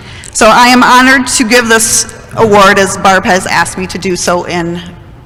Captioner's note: none